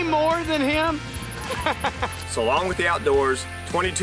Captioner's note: laughing